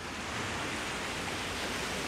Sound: waves crashing

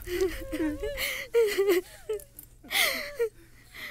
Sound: cries

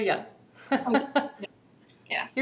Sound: laughing

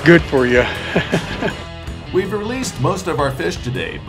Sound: chuckling

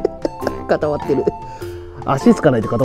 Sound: laughs

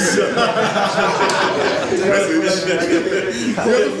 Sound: audience laughs

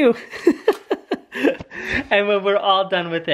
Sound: laughs

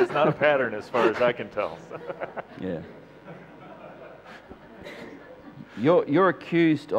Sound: laughter

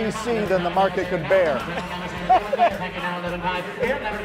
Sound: laughing

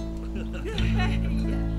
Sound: laughing

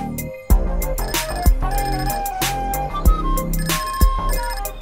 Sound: cellphone ringing

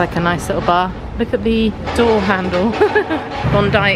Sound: chuckling

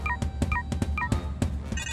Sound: beeping

